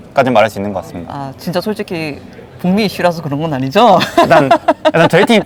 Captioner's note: laughs